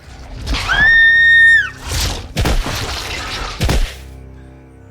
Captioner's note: scream